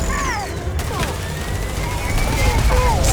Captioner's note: rumbling